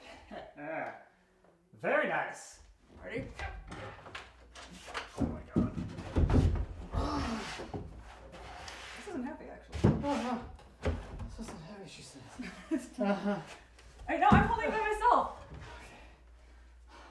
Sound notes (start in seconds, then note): 0.3 chuckles; 6.9 grunts; 12.4 laughs; 12.4 chuckles